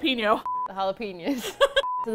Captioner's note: both laugh